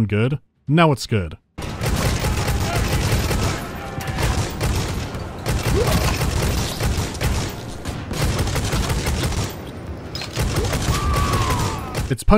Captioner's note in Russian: буцкает Болтер